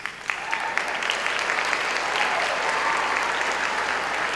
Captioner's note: applause